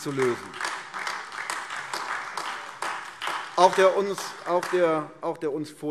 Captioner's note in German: Beifall AfD